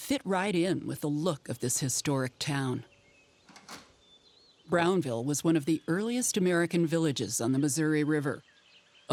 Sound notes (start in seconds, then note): 3.5 door clicking shut